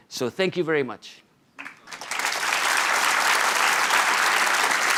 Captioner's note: applause